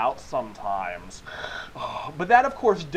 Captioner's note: deep breath